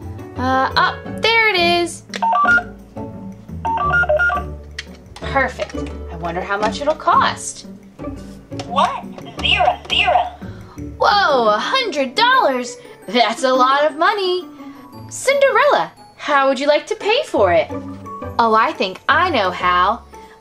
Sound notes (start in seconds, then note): 2.3 scanner beeping; 10.7 voiceover